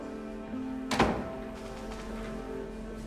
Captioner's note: door closes